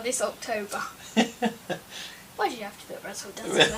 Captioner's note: laughs